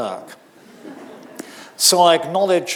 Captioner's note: audience laughing